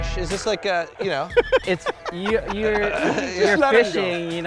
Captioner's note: laughing